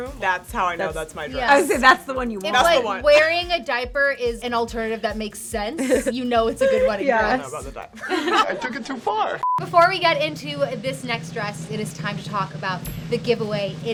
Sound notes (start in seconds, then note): 5.7 laughs; 9.7 drum rolling